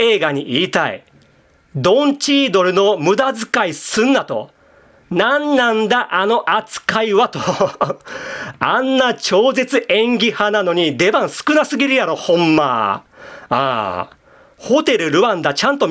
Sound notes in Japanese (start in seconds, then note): 7.3 笑い; 8.0 息をのむ音